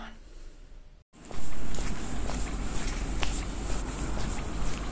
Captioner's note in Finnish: askelten rahinaa